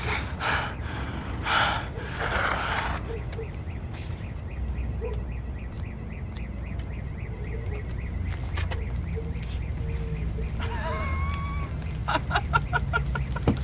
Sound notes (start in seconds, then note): 10.2 rain patters; 10.6 he laughs